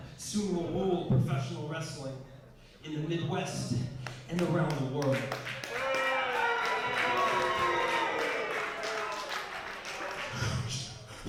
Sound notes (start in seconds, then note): 5.6 crowd booing